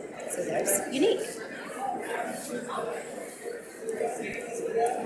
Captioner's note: audience mumbling